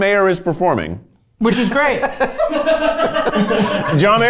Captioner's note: crew member laughing